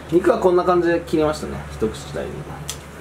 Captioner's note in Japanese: none